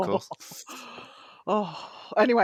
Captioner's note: laughs